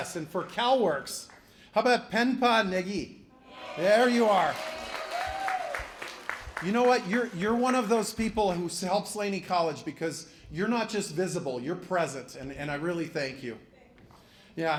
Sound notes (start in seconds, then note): 5.3 applause